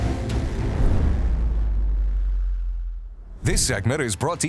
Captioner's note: logo swooshing